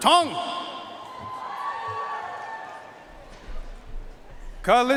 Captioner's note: audience cheering and applauding